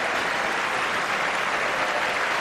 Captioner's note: applause